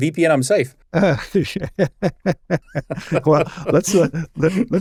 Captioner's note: laughing